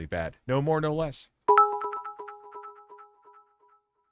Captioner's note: ding